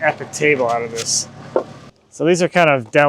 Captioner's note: log clunks